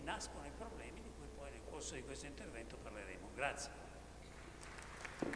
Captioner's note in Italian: Applauso